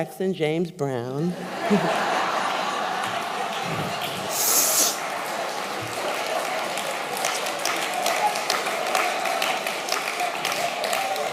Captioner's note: laughter, Applause